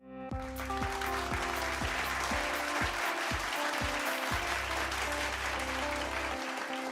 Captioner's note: light instrumental music; applause